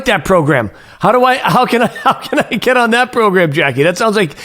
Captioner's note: chuckles